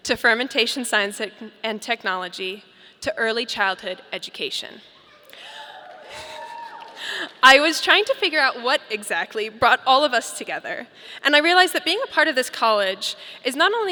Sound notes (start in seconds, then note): 5.7 audience applauding